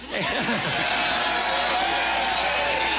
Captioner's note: applause